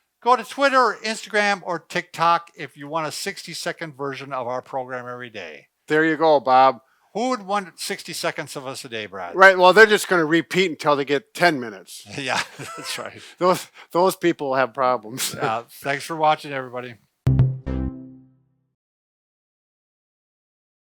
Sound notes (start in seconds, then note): 12.1 laughs; 17.2 electronic music